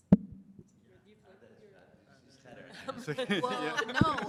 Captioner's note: chatter